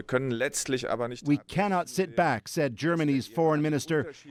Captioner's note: speaking foreign language